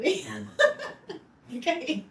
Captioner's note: laughing